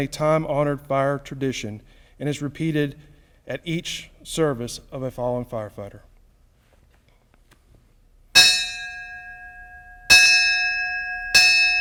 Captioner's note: bell tolls